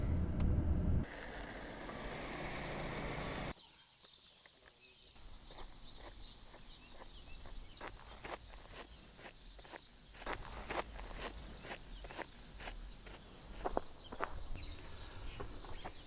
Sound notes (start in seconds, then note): 4.6 birds chirping